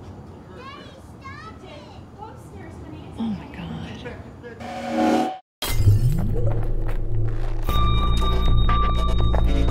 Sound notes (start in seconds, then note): 3.8 time-stop noise